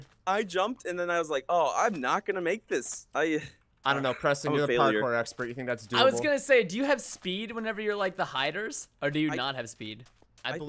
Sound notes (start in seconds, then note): 3.0 sighs